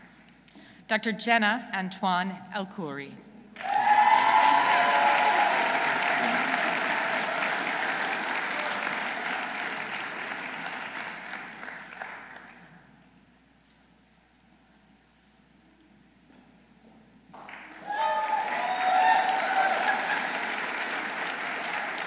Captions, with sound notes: Dr. Jenna Antoine Elkhoury. -(audience cheering) -(audience applauding) (audience applauding)